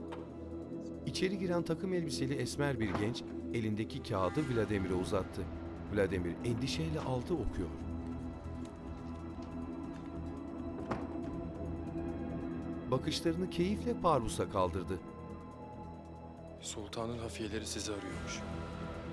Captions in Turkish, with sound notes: (Kapı açılma sesi) (Kapı kapanma sesi) (Müzik - Gerilim) Sultanın hafiyeleri sizi arıyormuş.